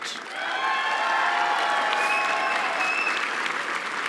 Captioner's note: applause